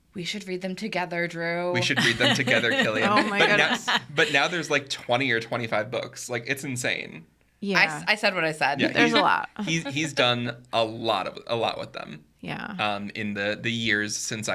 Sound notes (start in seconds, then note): 1.7 laughing; 9.5 podcaster chuckling